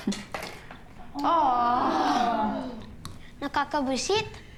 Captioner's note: all gasping